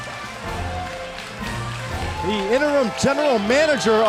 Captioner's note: crowd cheering